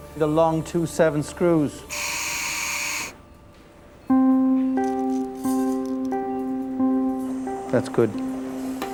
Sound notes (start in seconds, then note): 1.8 surgical instrument humming; 4.1 gentle music